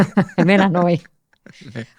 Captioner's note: he laughs